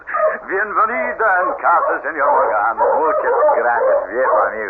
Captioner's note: speaking Spanish